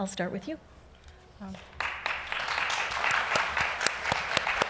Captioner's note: applause